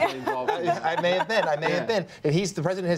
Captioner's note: laughter